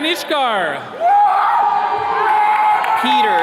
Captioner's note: attendees cheering